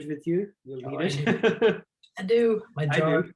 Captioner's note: laughs